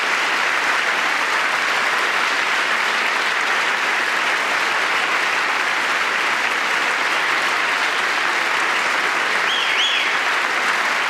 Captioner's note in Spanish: gritos